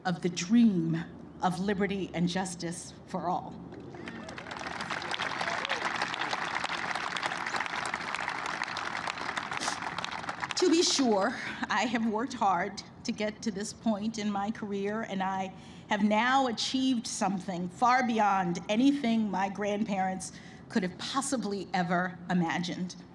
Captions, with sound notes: of the dream of liberty and justice for all. (Applause.) To be sure, I have worked hard to get to this point in my career, and I have now achieved something far beyond anything my grandparents could've possibly ever imagined.